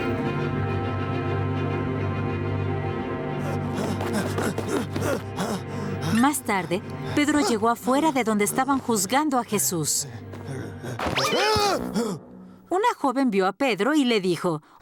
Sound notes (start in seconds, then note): 9.7 panting; 11.1 shouts